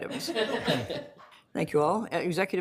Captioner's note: plaughter